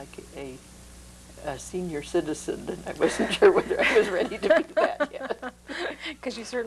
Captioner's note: laughter